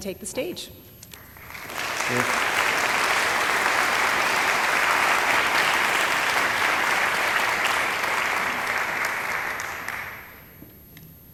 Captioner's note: applause